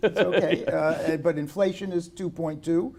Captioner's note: laughter